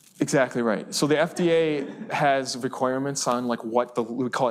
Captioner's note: students laugh